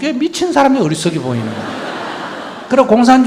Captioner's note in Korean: 청중 웃음